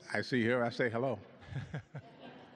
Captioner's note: laughs